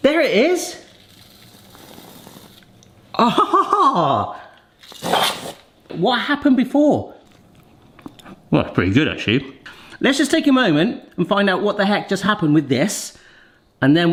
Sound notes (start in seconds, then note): 3.1 laughs contentedly; 5.0 nozzle hisses